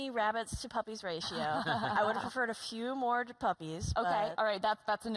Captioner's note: laughter